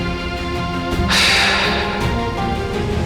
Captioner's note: sighs